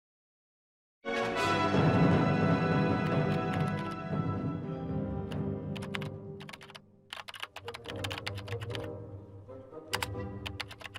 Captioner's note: keyboard clicking